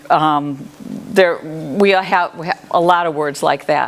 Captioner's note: none